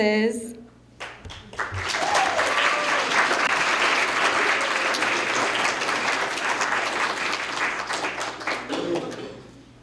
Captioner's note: applause